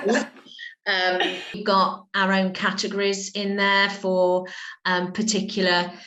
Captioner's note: laughter